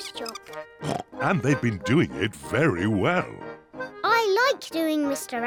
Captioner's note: oinks